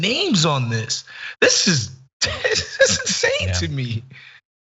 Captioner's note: laugh